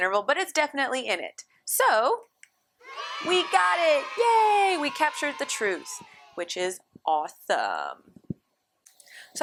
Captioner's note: applause